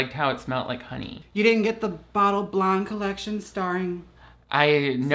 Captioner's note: none